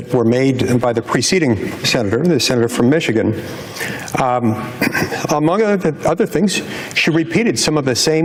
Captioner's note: laughter and clears throat